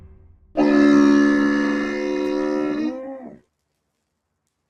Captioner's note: camel grunts